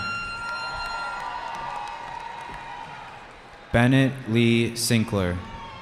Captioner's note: cheering